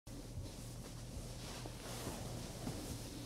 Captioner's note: pants swishing